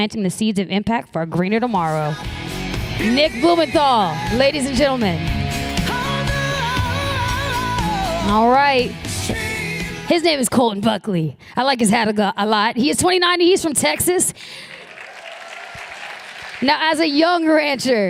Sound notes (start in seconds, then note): 14.4 applause